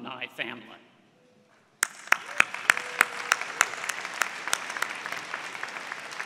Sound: applause

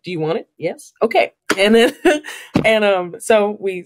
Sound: laughs

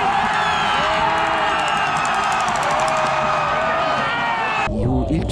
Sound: Cheering of LG fans

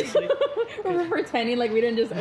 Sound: laughs

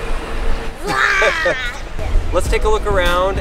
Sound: laughs; shouts

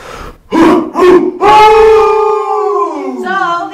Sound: chanting

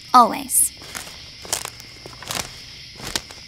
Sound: footsteps crunching ground

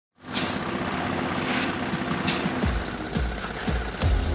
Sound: engine rumbling; upbeat music

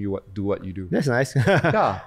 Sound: laughs

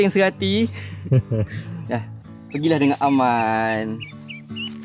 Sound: laugh

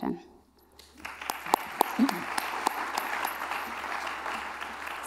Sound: applause

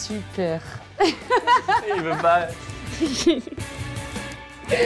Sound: she laughs

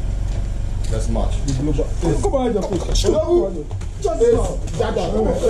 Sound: speaking foreign language

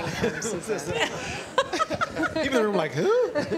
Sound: laughter

